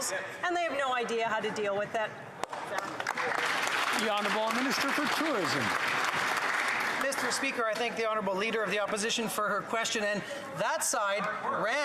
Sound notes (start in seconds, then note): 6.1 some Applause